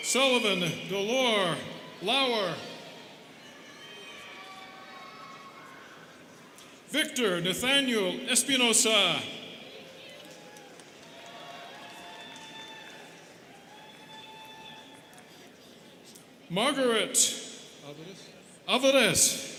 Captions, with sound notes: Sullivan Dolor Lauer. Victor Nathaniel Espinoza. (students cheering) Margaret Alvarez.